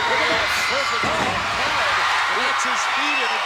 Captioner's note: crowd cheers